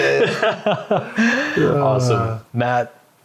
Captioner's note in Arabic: يضحك